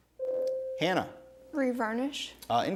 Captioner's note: ding